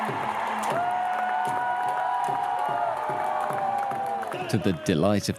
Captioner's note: crowd cheering